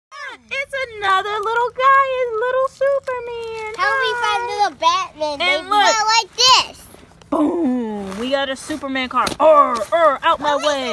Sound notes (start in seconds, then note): 0.5 voiceover; 6.9 voiceover